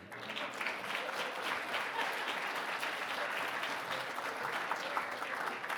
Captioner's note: audience clapping